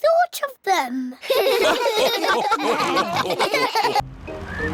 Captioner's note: all laugh